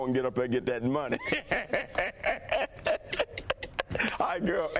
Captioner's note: laughs